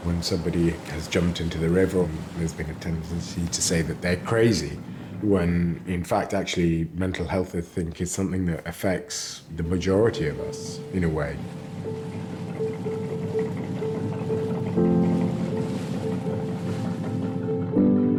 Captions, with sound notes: When somebody has jumped into the river, there's been a tendency to say that they're crazy when in fact actually mental health I think is something that affects the majority of us in a way. (mysterious music) (motor whirring)